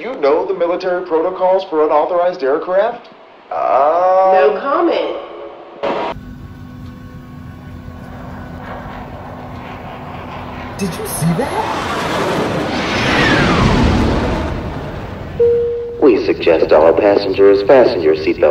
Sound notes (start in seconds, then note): 5.7 static transition; 15.4 airplane announcement bell